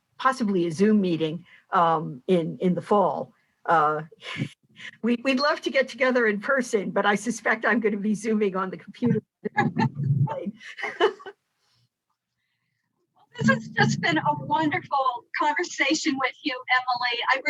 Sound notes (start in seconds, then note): 9.4 both laughing